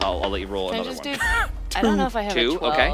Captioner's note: wheezes